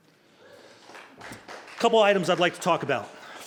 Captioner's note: applauding